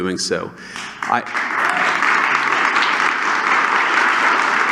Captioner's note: applause